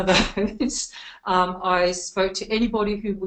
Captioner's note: laughs